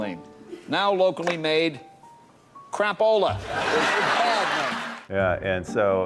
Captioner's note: audience laughs